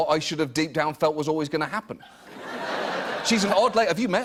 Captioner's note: laughter